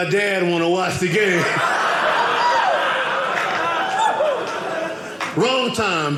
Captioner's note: audience laughing